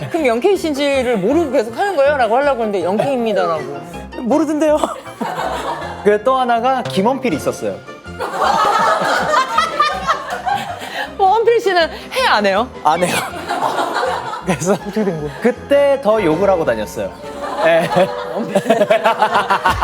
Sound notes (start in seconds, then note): 8.2 hahahaha